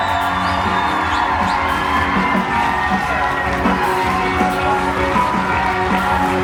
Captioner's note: rock music; everyone screams